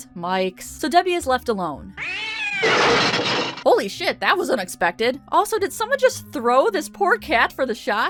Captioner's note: cat screech!